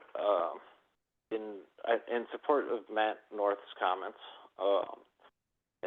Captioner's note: by phone; by phone